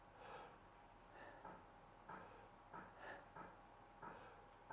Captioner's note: inhales and exhales deeply